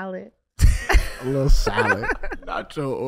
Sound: Iman laughing

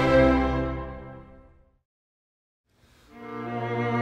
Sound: silence

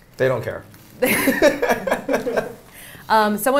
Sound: both laughing

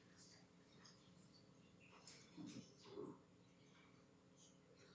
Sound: whispering

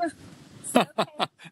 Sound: laughing

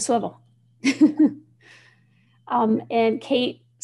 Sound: chuckling

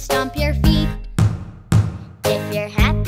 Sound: feet thud

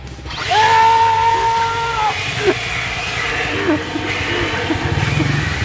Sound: leaf blower whirs; yelling; motor bike engine rumbles

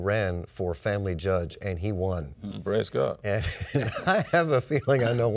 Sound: laughs

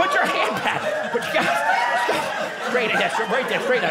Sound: audience laughing

